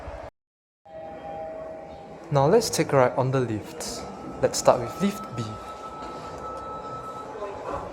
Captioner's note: chime